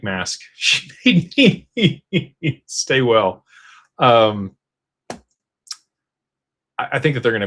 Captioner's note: laughter